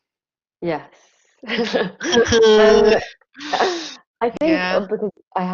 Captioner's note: all laughing